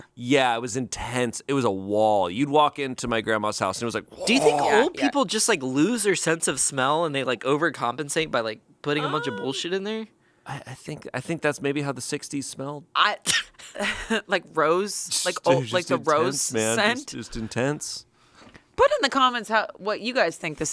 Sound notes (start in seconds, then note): 13.2 laughs